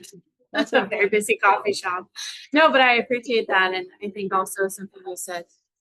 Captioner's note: chuckles